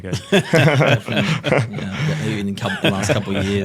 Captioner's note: laughing